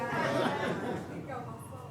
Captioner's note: audience laughing